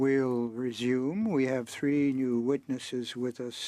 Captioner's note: speaking French